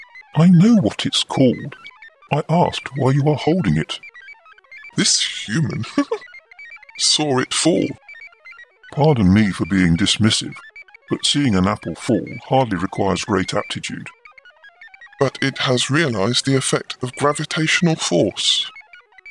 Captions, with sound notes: I know what it’s called, I asked why you are holding it? This human [laughs] saw it fall Pardon me for being dismissive... but seeing an apple fall hardly requires great aptitude. But it has realised the effect of gravitational force.